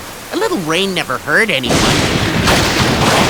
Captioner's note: lightning crashes violently